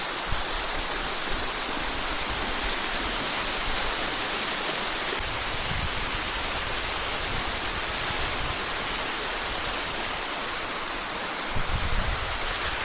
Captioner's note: water splashing